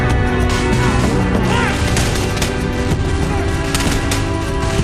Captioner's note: gunshots banging